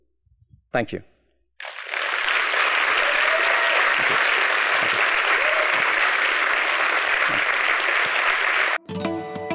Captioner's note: applause